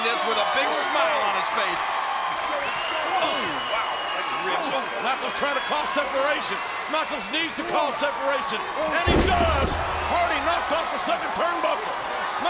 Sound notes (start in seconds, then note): 2.2 audience cheering